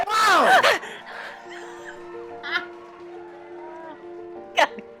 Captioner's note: audience applauding; audience cheering; startled gasp; laughing